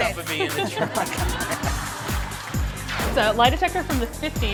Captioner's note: laughter